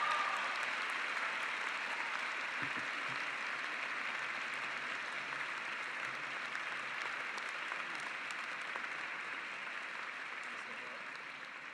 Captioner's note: cheering and applause